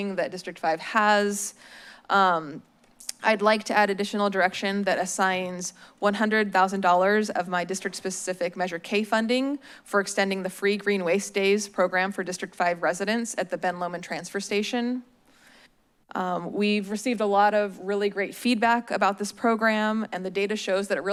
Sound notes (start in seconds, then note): 2.5 smacks lips